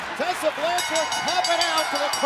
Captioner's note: bell ringing